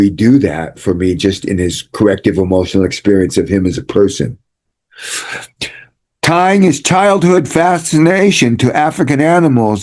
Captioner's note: snorts